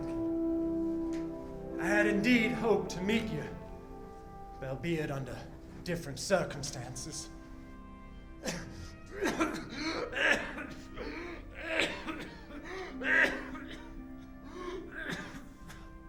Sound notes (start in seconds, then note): 8.4 coughing